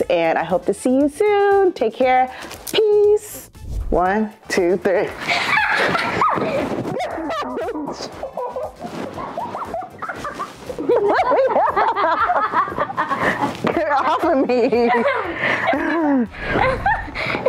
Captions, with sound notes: and I hope to see you soon. Take care. Peace. One, two, three. (squealing) (both laughing) Get off of me.